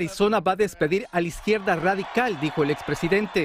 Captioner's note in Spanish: habla en ingés